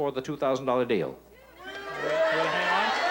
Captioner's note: audience chatter